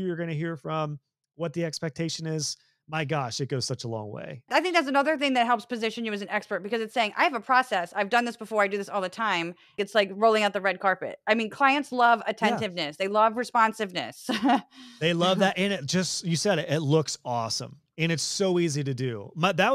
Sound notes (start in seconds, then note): 15.0 laugh